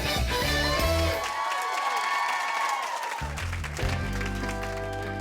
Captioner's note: cheering; suspenseful music